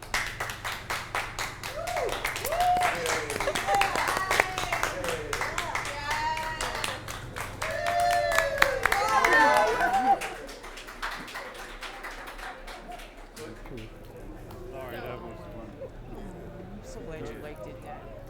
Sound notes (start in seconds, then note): 0.1 family applauding; 3.6 family cheering